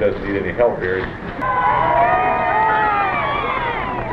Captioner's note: cheering